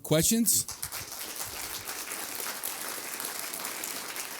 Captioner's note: applause